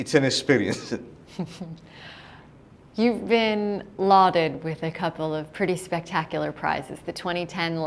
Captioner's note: chuckle